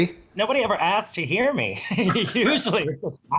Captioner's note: laughing